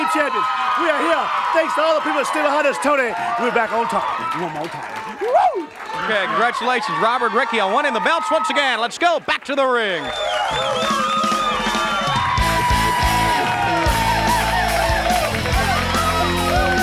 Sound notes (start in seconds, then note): 10.3 upbeat music; 10.6 audience cheering